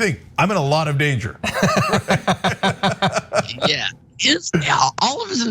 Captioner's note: laugh